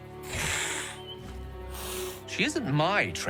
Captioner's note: hisses